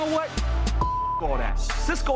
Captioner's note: beep